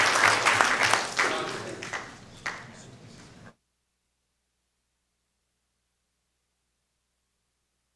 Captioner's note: applause